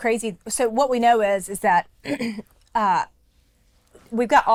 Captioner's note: clears throat